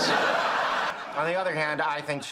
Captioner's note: audience laughing